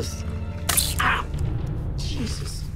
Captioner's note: syringe shoots